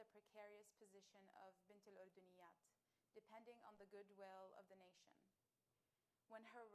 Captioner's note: speaking arabic